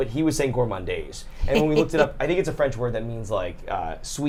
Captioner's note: snickers